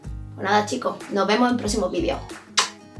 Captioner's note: muah